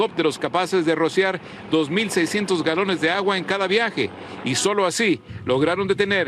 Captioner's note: speaking spanish